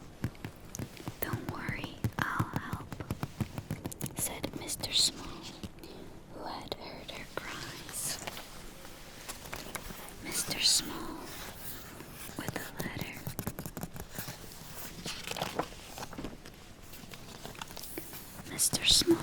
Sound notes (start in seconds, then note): 0.0 taps; 13.8 taps; 15.4 flips page